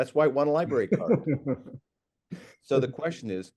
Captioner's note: laughs